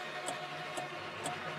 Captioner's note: clock ticking